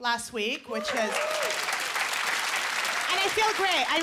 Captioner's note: applause